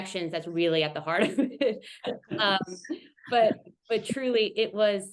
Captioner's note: laughs